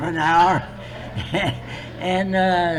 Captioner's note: laughs